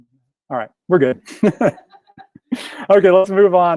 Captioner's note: laughs